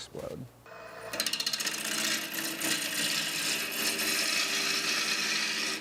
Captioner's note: machine noise